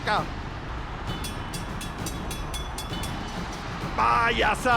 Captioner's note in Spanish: campana sonando